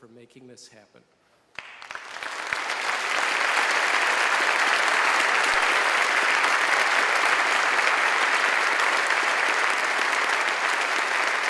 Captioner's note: applause